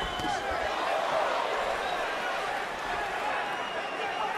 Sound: crowd cheering, whistling

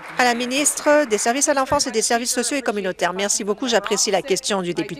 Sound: applause

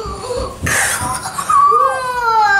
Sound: kids gasping; laughs

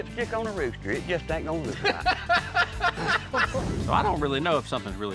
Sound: laughter

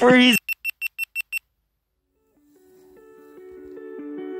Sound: camera beeping

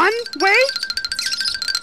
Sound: squeaky squeaking

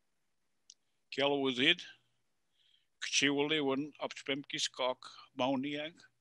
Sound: speaking in Passamaquoddy language

